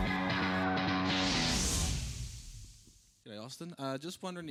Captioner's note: bomb explodes